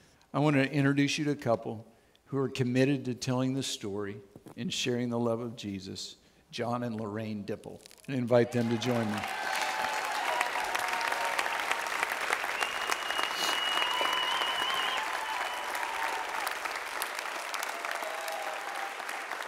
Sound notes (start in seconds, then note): 14.2 audience Cheers